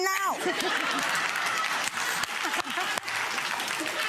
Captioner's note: audience laughs